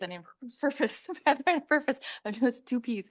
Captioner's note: laughing